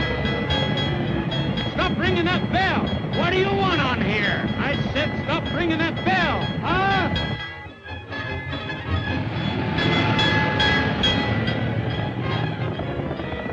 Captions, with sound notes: - Stop ringing that bell. - What do you want on here? - I said stop ringing that bell. - Huh? (bell dinging) (dramatic orchestral music)